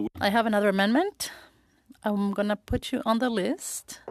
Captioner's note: speaking French